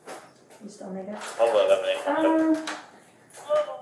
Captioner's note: radio chatter